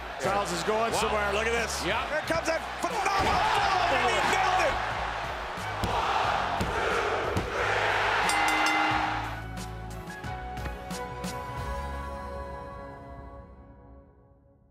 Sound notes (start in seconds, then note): 5.8 ref slams hands; 8.2 bell rings; 10.7 light upbeat music